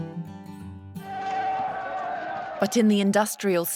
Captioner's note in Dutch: publiek schreeuwt